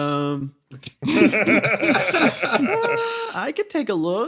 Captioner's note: laughs